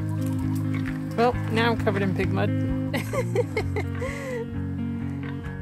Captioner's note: laughs